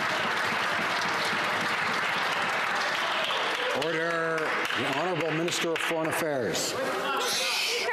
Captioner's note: some Applause